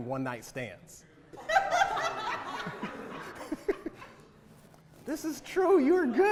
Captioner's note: audience laughter